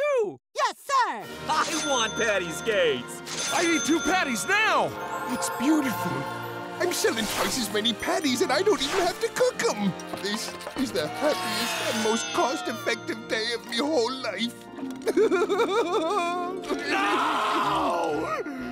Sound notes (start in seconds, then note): 14.5 crying